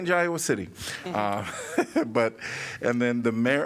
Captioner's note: laughter